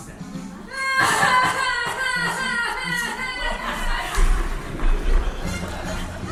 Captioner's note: Ermengarde sobbing rythmically